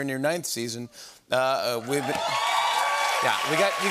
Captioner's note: cheers and applause